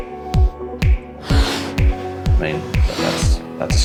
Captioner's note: blowing